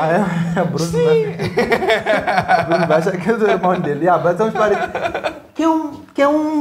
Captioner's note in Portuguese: Risadas